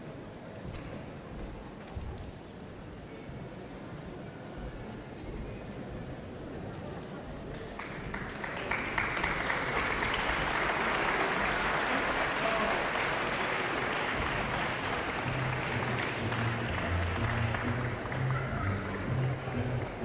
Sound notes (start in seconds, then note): 8.7 audience applauding